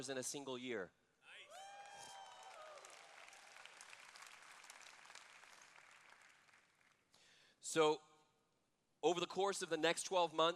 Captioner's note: cheers